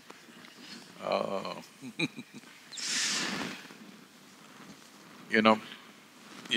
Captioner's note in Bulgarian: Смее се